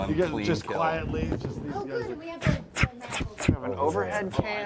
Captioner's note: blow gun sounds